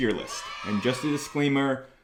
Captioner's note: children cheering